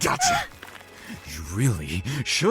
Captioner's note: startled cry